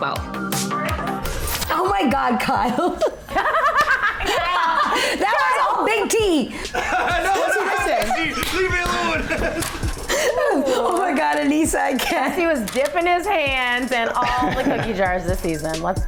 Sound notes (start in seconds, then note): 0.3 upbeat music playing; 3.5 laughing; 7.3 laughing